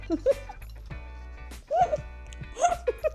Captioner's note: laughing